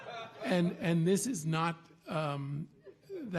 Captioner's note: audience laughing